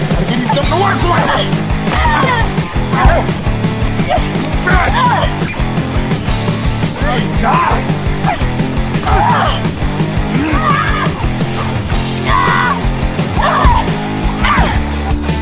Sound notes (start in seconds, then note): 1.9 Kristen yells